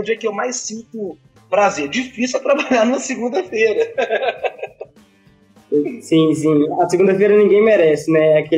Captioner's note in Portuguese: risos